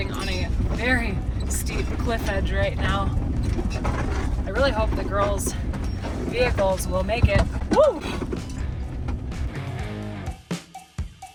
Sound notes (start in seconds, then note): 3.1 vehicle rattling; 8.1 vehicle rattling